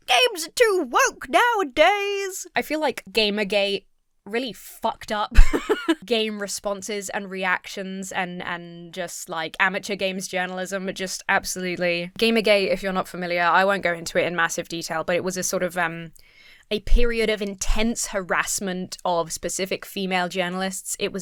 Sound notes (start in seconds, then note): 5.3 laughs